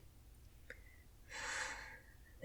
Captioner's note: angry sigh